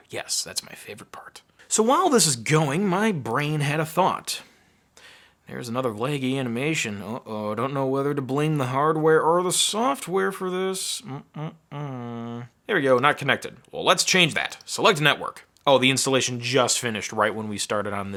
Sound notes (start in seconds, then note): none